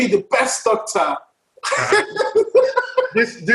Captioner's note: laughs